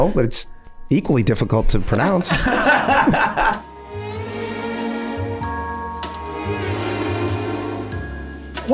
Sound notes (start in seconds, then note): 2.2 all laughing; 3.5 gentle jazz music